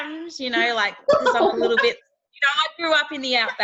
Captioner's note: laughing